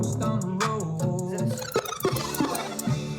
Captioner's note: tape rewinding